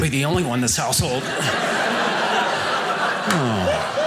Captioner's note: audience laughing